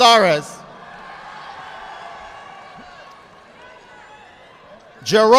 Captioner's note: audience applauding